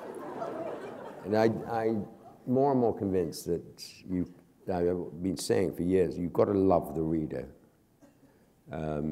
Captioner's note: laughter